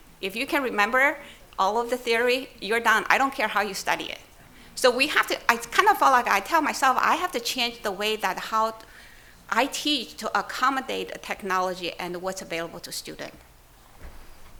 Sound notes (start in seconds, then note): none